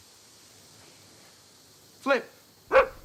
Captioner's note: flip barks